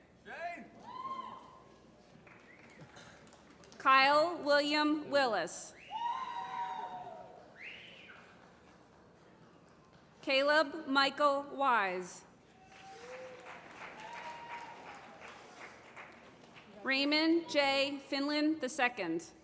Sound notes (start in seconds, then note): 0.7 applause; 6.3 applause; 12.5 applause